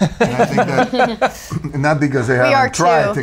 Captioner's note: laughing